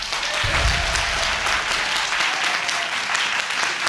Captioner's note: audience applauding